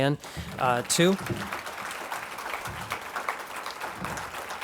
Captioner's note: clapping